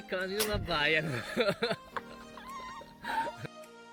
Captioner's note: fat laught